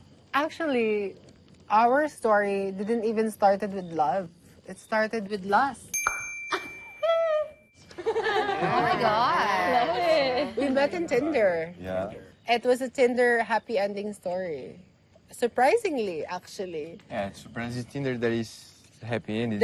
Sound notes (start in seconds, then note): 6.5 tongue clicks, chuckles; 7.9 laughing